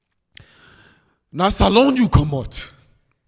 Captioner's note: speaking Krio